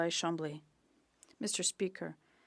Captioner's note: speaking French